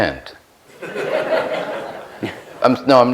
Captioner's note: laughs